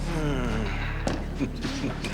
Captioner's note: Joe groans; both chuckling